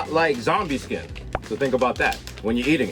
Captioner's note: pops